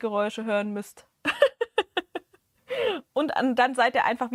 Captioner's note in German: gelächter